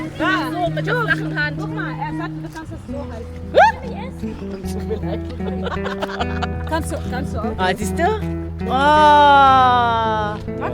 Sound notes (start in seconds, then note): 0.3 speaking German; 3.5 scream; 3.6 laugh; 6.8 speaking German